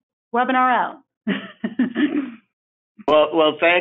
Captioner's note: people laughing